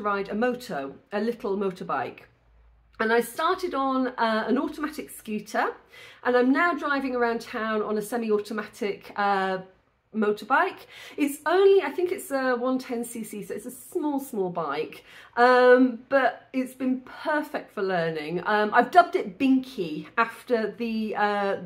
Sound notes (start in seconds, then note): none